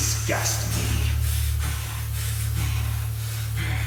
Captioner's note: Larry gasping